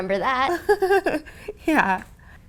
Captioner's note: laughter